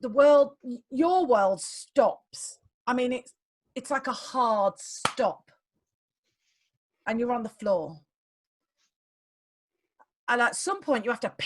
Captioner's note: claps